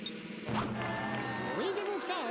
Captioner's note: crowd jeering